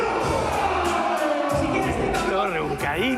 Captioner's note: cheers